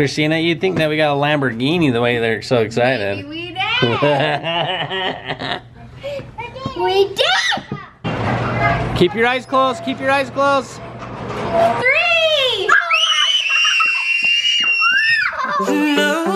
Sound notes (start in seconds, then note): 3.8 laughing; 12.6 screaming